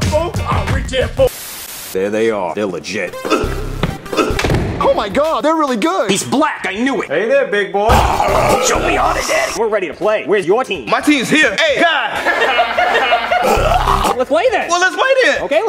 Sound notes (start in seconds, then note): 1.4 static; 3.2 groaning; 7.9 snarling; 12.2 laughing; 13.4 choking; 13.4 snarling